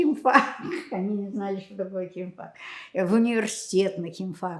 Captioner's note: laughing